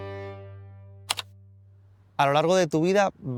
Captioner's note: key sound